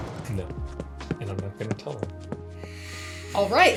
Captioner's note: soft footsteps